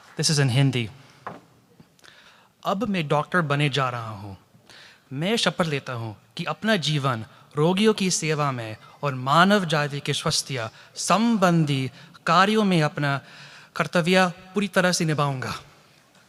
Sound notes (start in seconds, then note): 2.6 speaking hindi